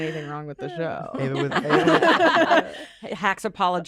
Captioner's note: laughter